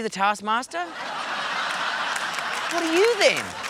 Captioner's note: laughter